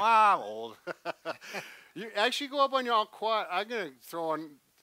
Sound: laughs

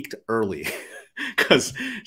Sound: chuckles

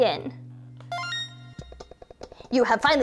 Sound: beeping

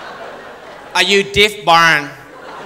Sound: Irish accent

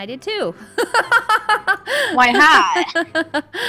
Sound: hahahaha

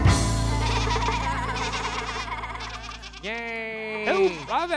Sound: goats bleating

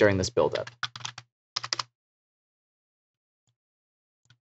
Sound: keyboard typing

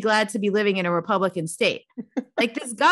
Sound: laughing

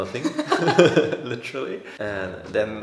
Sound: both laughing

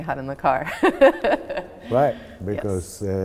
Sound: laughing

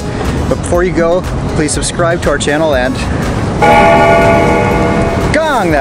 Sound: bell gongs

